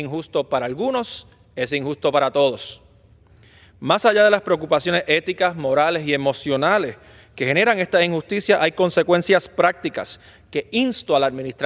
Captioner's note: speaking spanish